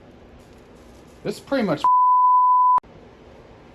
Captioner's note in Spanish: bip